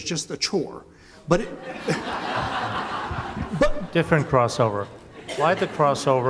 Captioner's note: laughter